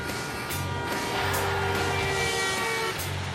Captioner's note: car horns honk; tires screech